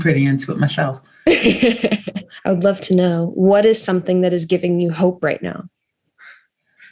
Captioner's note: chuckles